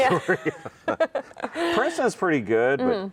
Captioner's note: both laugh